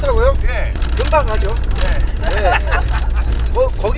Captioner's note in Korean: 웃음